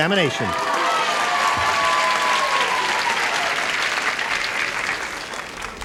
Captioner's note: cheers and applause